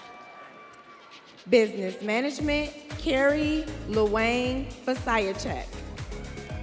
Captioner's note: students cheering